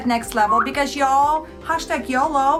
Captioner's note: whistle